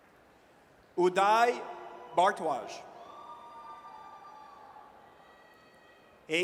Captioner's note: audience cheers